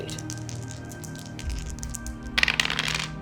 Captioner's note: shaking dice; dice rolling